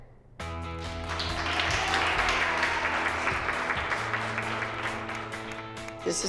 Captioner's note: applause